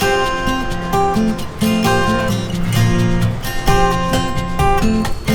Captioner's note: waves rushing